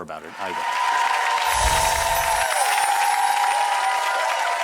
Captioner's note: audience applause